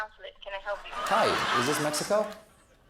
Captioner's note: laughter; applause